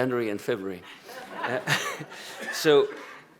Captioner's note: laughter